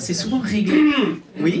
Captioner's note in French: raclement de gorge